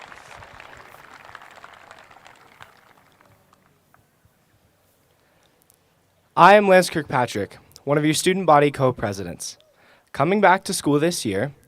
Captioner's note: applause